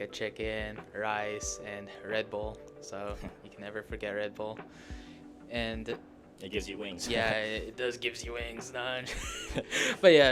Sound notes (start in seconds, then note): 6.2 laughter